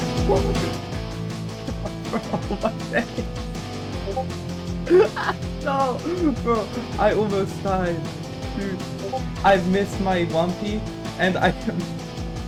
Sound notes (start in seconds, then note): 4.9 gasp